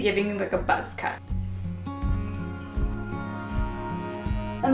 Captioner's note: buzzing